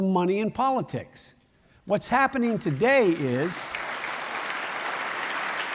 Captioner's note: applause